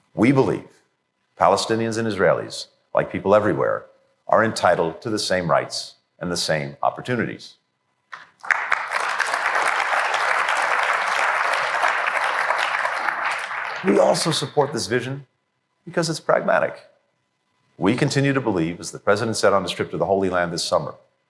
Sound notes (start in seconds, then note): 10.3 applause